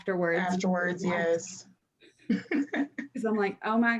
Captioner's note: laughs